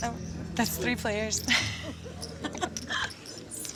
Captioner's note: laughs